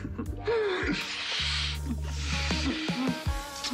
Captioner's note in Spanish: Risas